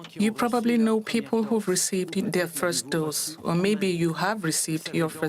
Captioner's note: speaking French